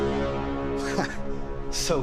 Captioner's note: chuckles